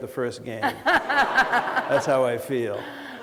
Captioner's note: laughter